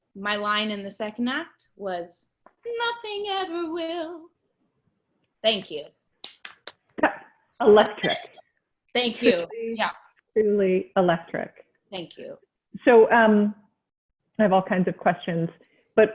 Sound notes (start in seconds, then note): 6.2 clapping